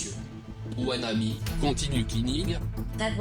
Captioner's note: speaking French